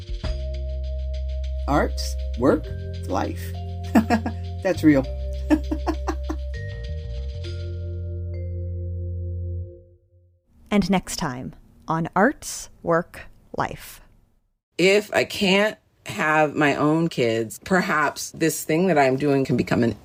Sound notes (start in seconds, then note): 7.3 laugh